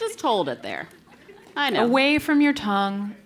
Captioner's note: laugh